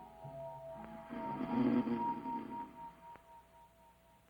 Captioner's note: Dolly snoring